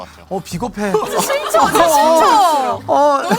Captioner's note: jeers pouring in